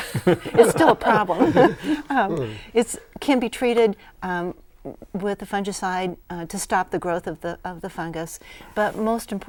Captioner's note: laughing